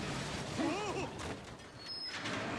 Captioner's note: crashes